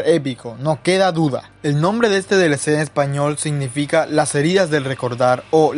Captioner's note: in Spanish